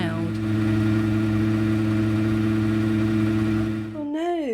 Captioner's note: loud pumping noise